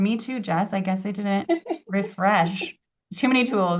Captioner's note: laughs